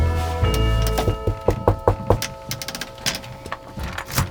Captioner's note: knocking